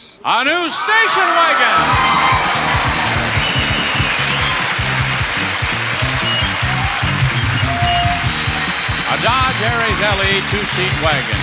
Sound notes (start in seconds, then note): 0.8 upbeat music; 1.7 audience cheers